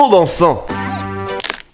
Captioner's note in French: bruit de craquement de doigts